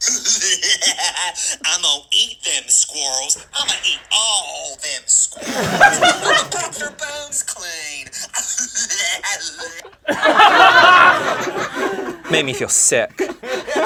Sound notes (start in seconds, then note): 0.0 laughing maniacally; 5.2 laughing; 8.2 laughing maniacally; 10.3 laughing